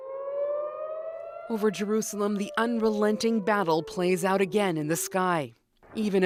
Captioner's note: sirens